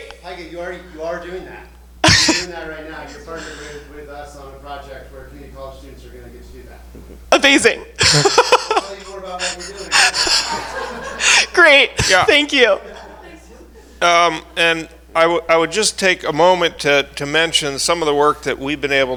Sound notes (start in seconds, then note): 7.9 laughs; 10.7 all laughing